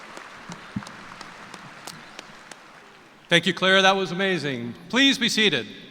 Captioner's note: applause